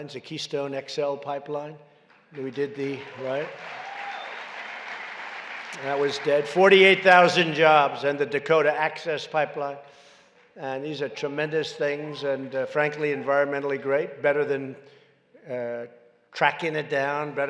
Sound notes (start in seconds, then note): 2.1 applause